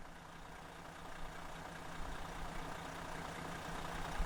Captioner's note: engine rattling